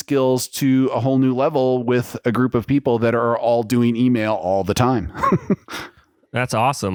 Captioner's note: laughs